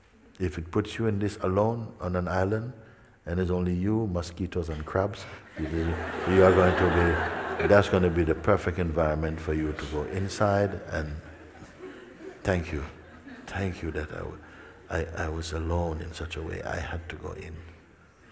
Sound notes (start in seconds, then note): 6.1 laughter